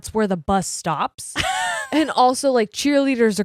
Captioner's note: laughing